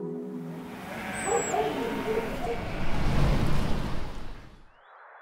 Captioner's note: sheep bleating and dog barking